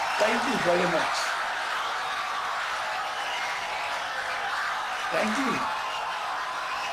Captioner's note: audience cheering, applauding for 17 seconds